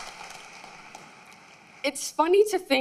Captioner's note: applause